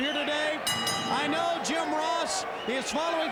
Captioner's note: bell rings